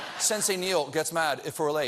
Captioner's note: laughter